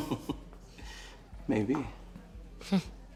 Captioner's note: laughs